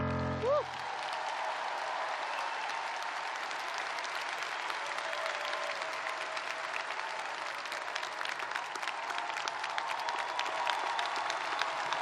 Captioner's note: cheers and applause